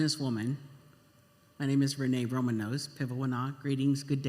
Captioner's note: speaking Indigenous language